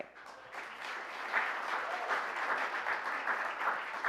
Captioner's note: applause